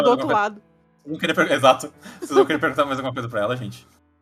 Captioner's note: laughs